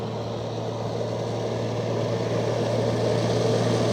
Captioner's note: the sound of running engines